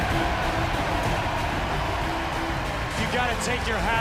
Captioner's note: cheers & applause